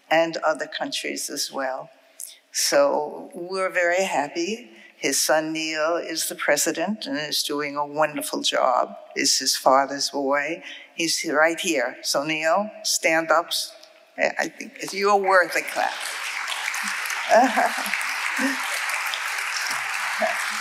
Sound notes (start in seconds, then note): 15.5 audience applauding